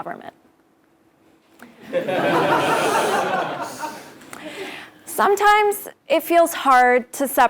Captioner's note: laugh